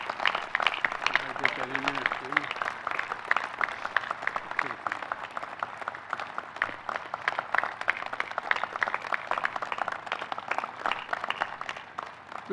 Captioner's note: applause